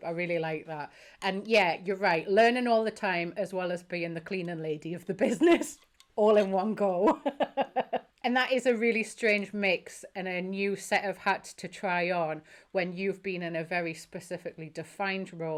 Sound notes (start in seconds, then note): 7.0 laughing